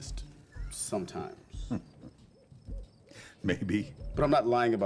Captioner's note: chuckles